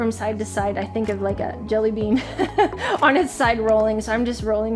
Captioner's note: laughing